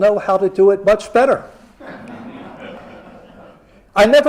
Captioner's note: laughter